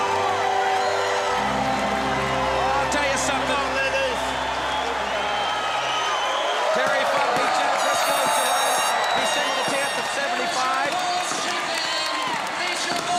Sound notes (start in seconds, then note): 7.3 crowd cheering